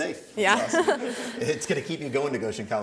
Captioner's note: laughter